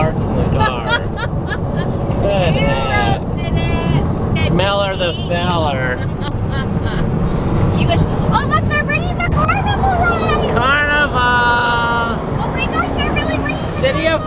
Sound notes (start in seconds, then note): 0.5 laughs; 5.6 laughs